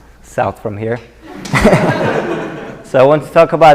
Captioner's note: laughter